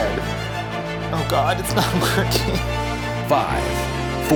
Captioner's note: whimpers